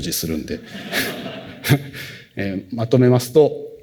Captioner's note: laughter